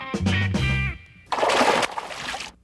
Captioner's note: music stinger; splash